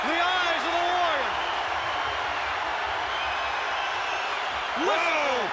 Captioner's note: crowd cheering